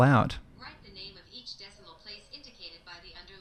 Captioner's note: automated Voice